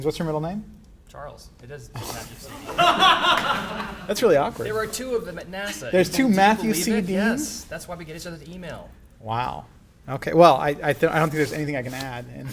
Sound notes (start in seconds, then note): 2.4 laughter